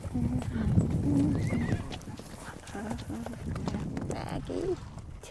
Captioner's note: hooves thundering; horse whinnies